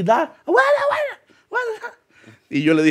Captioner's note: imitates yells